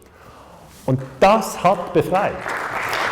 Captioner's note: Applause-KNOW